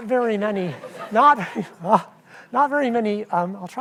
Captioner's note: audience laughs